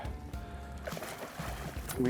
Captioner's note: fish thrashing